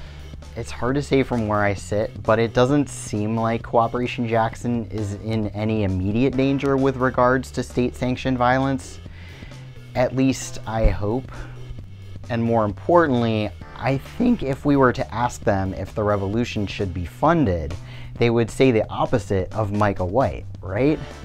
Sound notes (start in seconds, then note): none